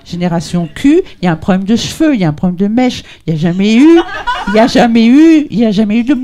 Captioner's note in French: rires